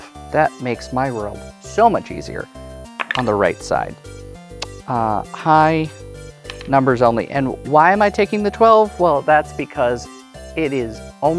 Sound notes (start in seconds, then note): 3.0 dice clattering